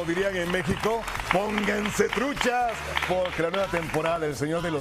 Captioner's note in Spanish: aplausos